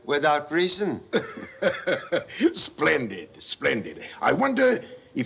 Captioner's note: chuckles